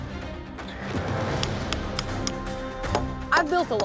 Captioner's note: clanking sound; hammering